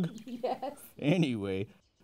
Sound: giggle

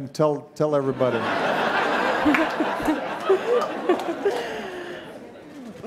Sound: audience laughing

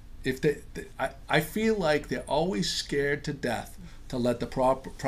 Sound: voiceover

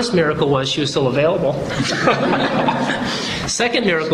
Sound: laughter

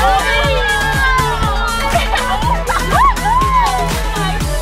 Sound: cheering excitedly; electronic music

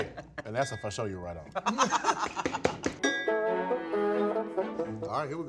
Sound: all laughing

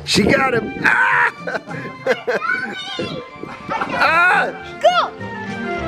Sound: screaming and laughing

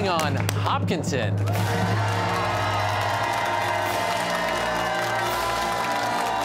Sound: cheers and applause

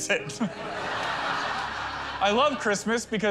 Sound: laughter

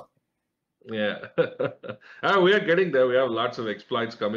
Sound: laugher

